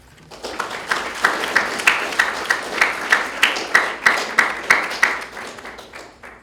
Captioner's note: graduates Clapping